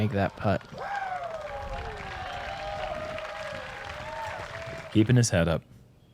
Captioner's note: applause